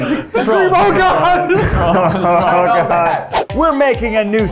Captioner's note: everyone laughing